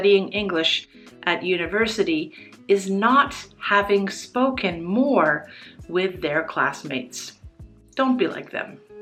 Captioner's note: in English